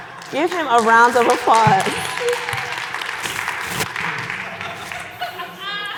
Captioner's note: audience applauding